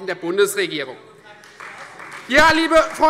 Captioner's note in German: Beifall Freie Demokraten